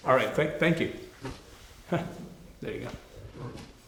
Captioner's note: chuckles